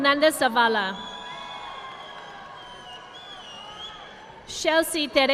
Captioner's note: audience clapping